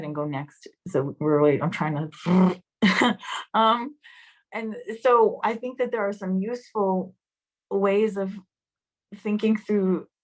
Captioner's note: laughter